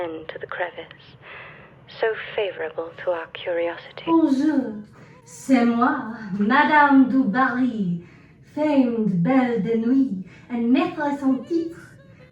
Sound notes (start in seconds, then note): 3.8 inexplicable English accent